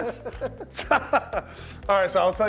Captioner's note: laughing